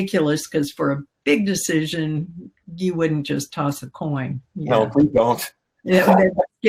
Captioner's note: laughs